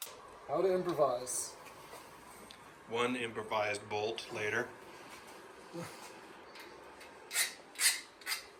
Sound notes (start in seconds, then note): 4.6 laughs